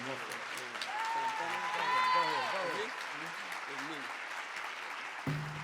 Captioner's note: audience clapping and cheering